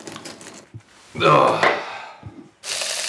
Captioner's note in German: Er stöhnt; Brutzeln